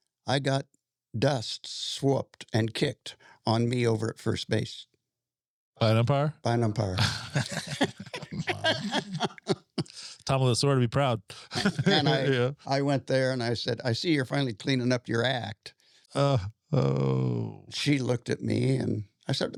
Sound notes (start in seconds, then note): 7.0 laughing